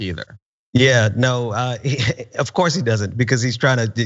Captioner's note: laugh